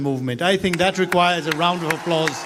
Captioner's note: applause